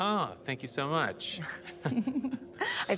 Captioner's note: both chuckle